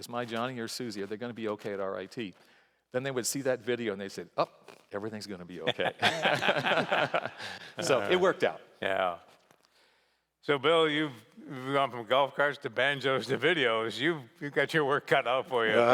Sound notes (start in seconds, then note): 5.6 laughter